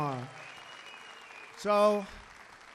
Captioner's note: applause